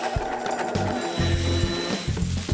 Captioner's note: sewing machine rattling; tools whirring; paint roller scraping